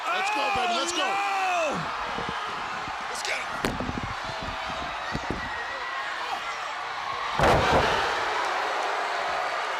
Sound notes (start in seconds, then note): 4.2 crowd cheering; 6.4 crowd chatter